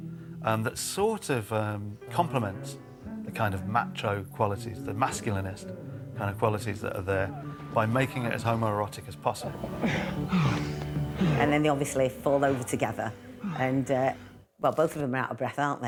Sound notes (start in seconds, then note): 11.4 both panting